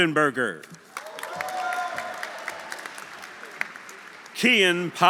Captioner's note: audience applauding; audience cheering